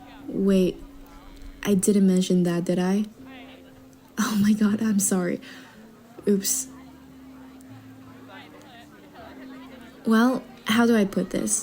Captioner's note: nervous chuckle